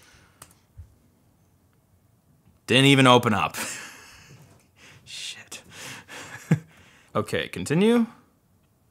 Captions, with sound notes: Didn't even open up. Shit. (laughs) Okay. Continue.